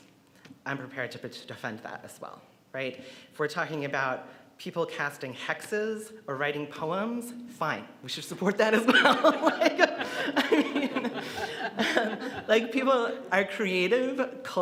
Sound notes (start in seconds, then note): 10.3 audience laughs